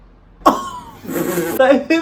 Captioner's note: laughs